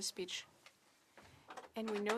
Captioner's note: speaking French